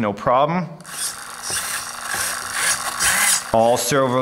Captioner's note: mechanical whirring